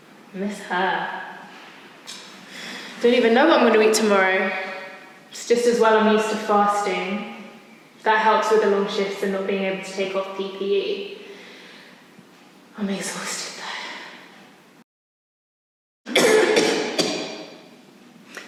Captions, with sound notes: I miss her. I don’t even know what I’m going to eat tomorrow. Just as well I’m used to fasting - that helps with the shifts and not being able to take off the PPE... I’m exhausted though. (Coughs).